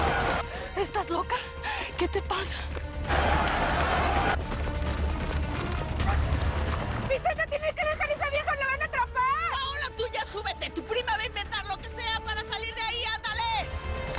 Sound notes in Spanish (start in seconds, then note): 0.0 Algarabía en el hipódromo; 3.0 Algarabía en el hipódromo